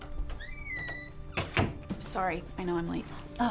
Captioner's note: door creaks; door thuds